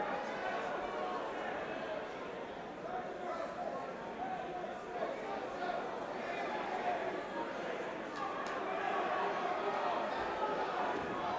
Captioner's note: crowd chatter